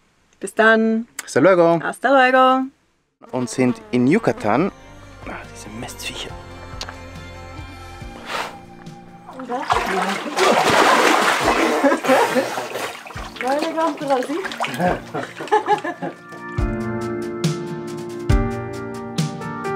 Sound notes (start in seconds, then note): 13.3 in Swiss German; 14.2 laugh